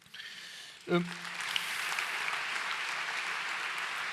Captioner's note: applause